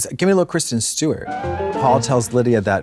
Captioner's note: bright chime